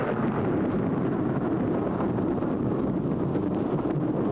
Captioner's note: loud thunder